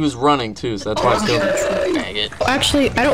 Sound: mocking

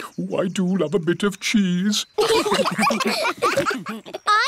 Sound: laughter

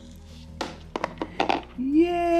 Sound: objects hitting

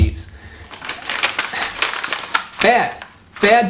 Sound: papers riffling

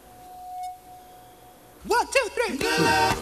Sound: mic feedback

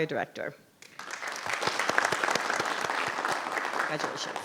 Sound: audience applauding

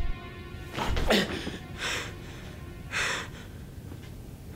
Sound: breathing heavy

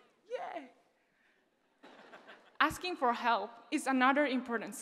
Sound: laugh

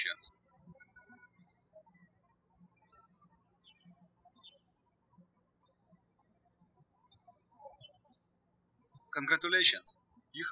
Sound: birds chirping

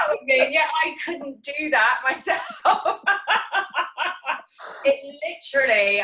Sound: laughing

